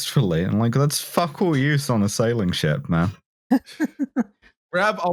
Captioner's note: laughs